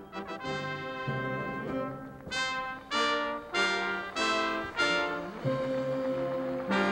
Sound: applauding

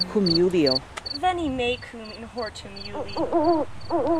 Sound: crickets chirping; owl hoots

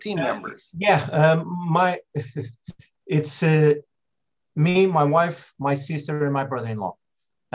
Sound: laughs

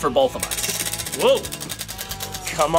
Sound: wheel spinning

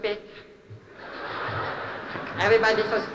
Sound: laughter

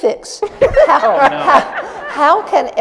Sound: laughter

